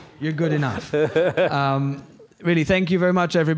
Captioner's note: laughs